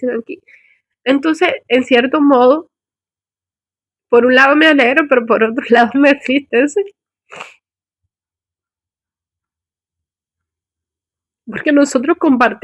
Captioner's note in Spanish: resoplido